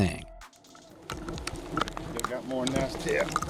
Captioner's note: bees buzzing